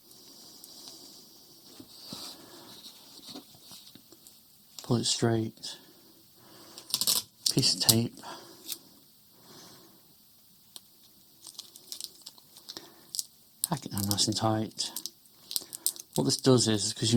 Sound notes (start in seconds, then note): 6.8 tape scraping; 11.3 tape crinkling